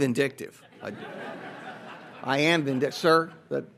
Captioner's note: audience laughs